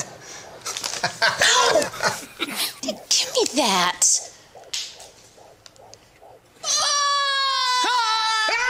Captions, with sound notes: Ow! Gimme that! [screaming]